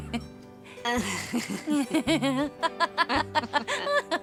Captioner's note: laughing; chuckling